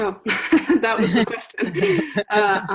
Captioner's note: laughs